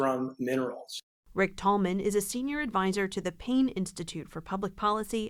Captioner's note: voice-over